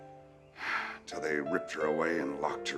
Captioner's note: sighing